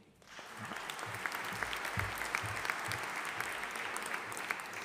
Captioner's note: audience applauding